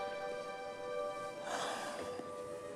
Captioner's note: justin sighs deeply